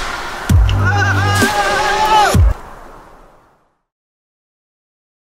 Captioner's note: screaming